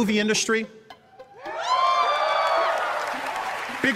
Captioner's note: crowd cheering